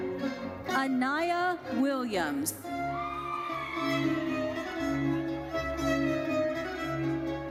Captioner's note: audience cheers